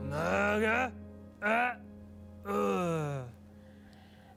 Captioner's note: speaking gibberish